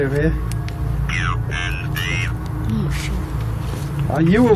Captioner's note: Ovilus speaking